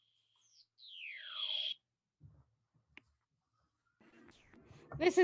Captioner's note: laser sound